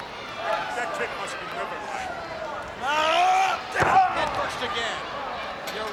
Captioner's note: body thudding; wrestlers grunting